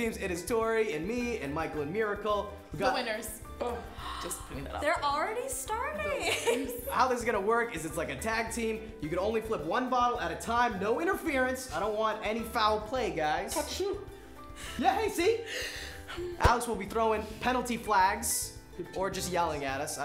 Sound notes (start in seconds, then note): 3.7 gasping